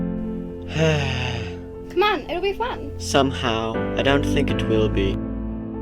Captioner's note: oliver sighs